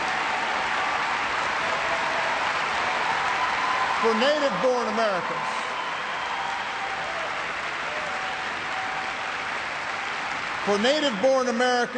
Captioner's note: cheers and applause